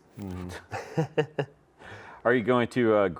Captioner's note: chuckles